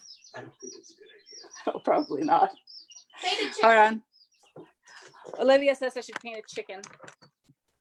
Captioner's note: laughs